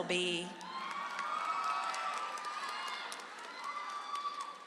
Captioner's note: audience applauds